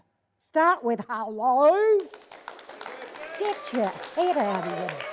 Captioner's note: audience applauding